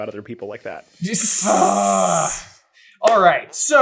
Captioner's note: laughs